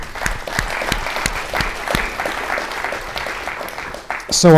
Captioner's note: all applauding